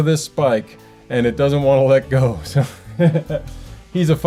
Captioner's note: laugh